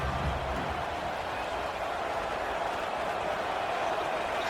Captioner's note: crowd cheering